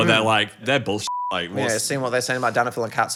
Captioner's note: beeping